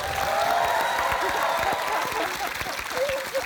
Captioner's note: applause